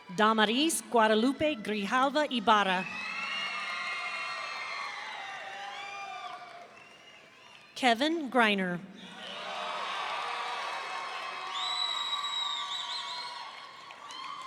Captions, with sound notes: Damaris Guadalope Grijalva Ibarra. (audience cheering) Kevin Griner. (audience cheering)